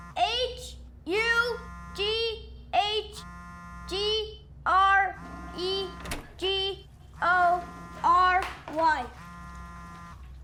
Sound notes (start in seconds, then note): 5.4 toilet flushing; 7.9 running